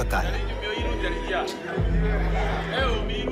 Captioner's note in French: Audio parlé en langue étrangère